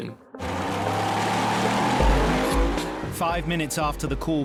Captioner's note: outboard rumbling